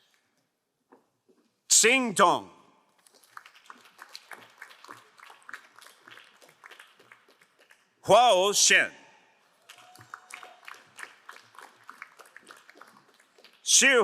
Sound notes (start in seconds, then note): 3.1 crowd applauding; 9.5 crowd applauding